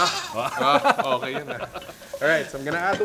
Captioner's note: laughs